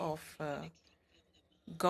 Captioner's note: speaking French